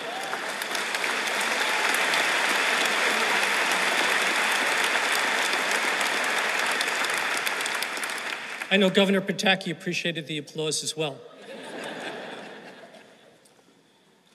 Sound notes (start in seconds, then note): 2.0 laughter; 3.4 applause